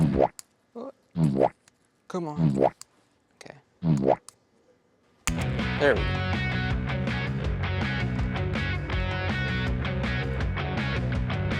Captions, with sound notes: (fart popping) Oh. Come on. (fart popping) Okay. (fart popping) (shears snapping) There we go. (exciting music)